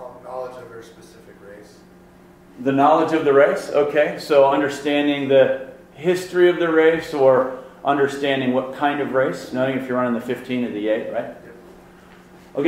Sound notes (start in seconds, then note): 0.3 voiceover